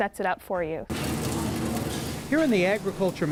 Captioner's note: welding